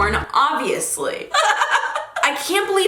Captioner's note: laughs